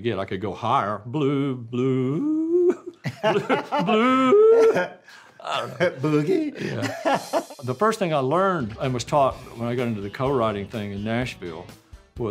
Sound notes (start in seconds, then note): 2.2 laughing; 5.5 laughing jokingly